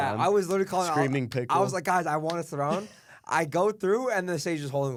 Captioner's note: laughs